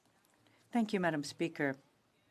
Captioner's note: speaking French